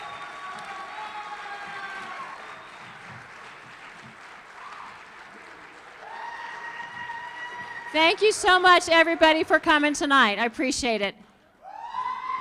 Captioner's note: cheers and applause